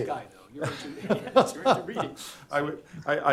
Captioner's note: laughs